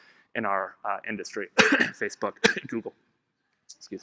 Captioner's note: coughs